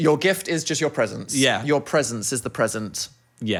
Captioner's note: none